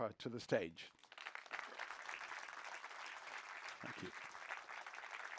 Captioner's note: applause